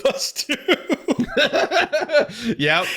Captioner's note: both laughing